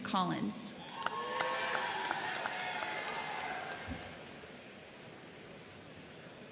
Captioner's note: crowd cheering; crowd clapping